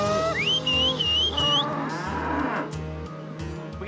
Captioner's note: whistling, mooing